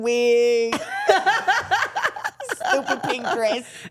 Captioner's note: interviewers laughing